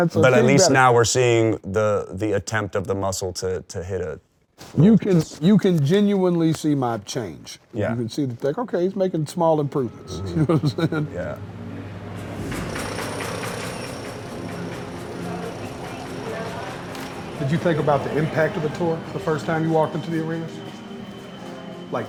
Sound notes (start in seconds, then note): 12.0 garage door opening